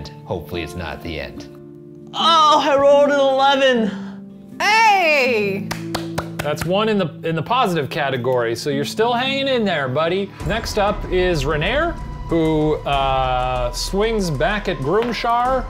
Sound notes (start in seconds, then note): 5.4 clapping